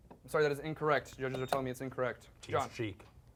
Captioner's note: beep